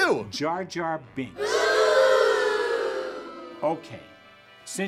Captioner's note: booing